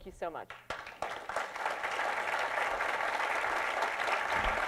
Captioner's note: applause